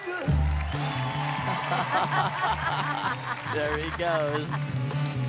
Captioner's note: laugh